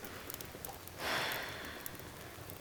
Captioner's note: fire crackling; sighs